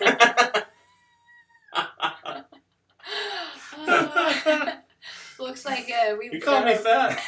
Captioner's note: laughter